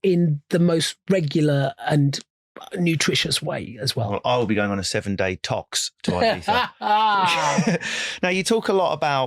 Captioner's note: laughing